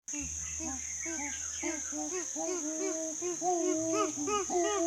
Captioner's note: chimpanzee calls and forest sounds